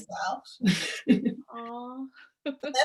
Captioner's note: laughs